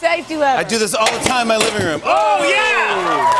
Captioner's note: cheers and applause